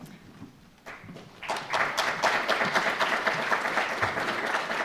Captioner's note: audience applause